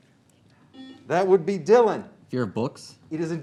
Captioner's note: beep